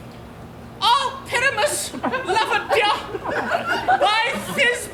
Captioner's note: in little voice